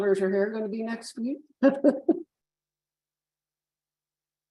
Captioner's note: chuckles